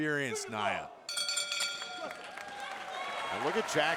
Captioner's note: bell rings